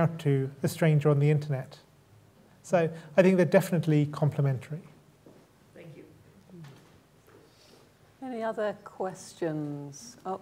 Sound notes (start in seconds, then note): none